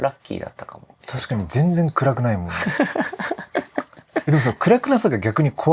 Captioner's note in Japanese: 笑い